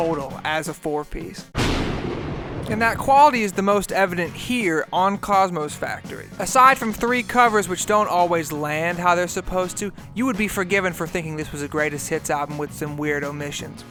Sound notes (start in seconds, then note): 1.5 lightning strike with no dialouge